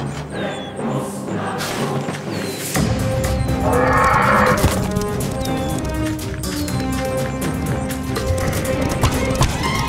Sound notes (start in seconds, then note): 3.6 horse screeching